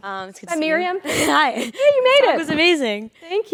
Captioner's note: laugh